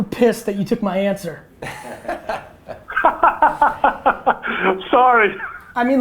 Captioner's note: group laughter